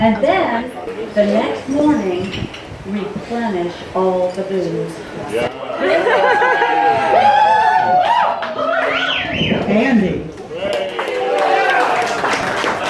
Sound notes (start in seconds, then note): 5.8 cheers; 10.6 applause